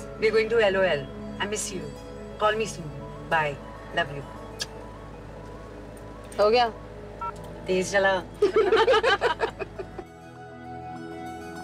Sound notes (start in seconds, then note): 4.2 Kisses; 8.4 Everyone laughing